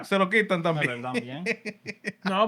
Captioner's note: speaking Spanish